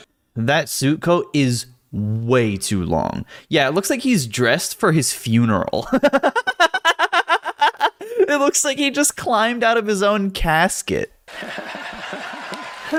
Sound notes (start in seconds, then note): 5.9 laugh